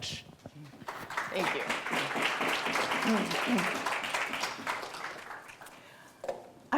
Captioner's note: audience applauding